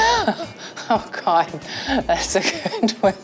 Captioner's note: laughs